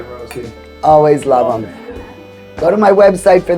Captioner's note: guests chuckling